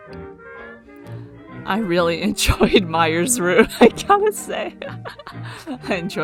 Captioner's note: laughs